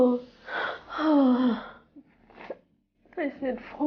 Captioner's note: sobbing